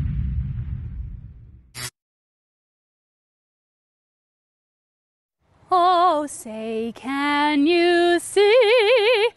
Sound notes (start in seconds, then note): 2.7 explosions